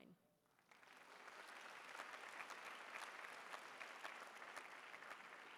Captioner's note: applause